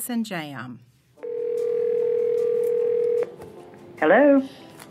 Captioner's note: gentle music; phone ringing